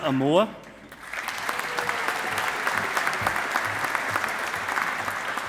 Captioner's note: audience applauding